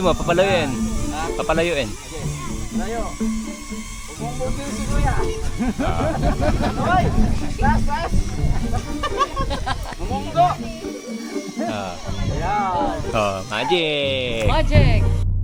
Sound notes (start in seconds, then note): 5.3 laughter